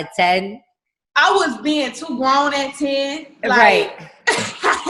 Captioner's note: laughs